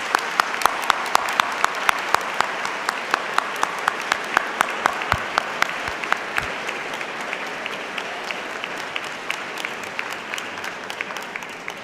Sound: applause

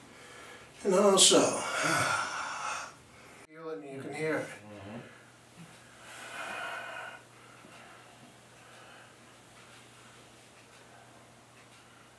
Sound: sigh

